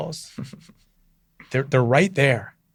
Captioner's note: laughs